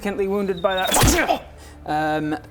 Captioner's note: slam!